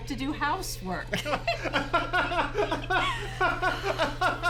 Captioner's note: both laughing